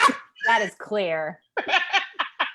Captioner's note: laughs